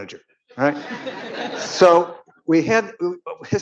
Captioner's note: audience laughing